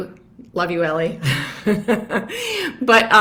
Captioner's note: laughs